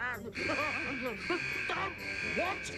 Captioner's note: alarm sounds